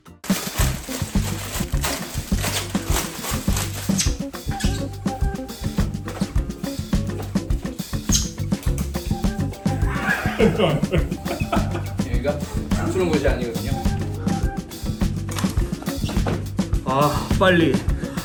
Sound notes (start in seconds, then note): 14.1 boiling hot water